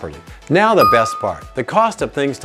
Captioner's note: bell dings